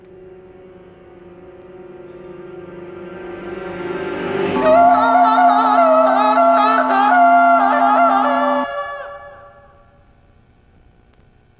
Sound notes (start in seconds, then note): 0.1 eerie music; 4.6 Greg screaming